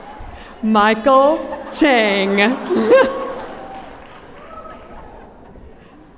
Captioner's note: laughter